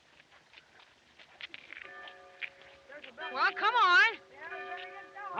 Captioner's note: bell Tolling